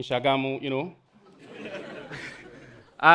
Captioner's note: audience laughing